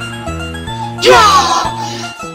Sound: huh!?!

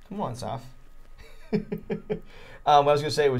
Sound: chuckling

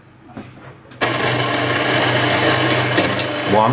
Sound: motor/gear noise

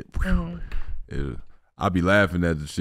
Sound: sighs

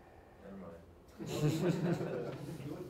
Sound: laughter

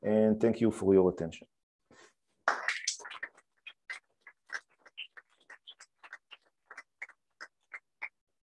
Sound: applause

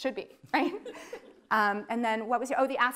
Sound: laughing

